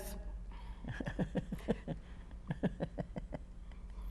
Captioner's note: laughs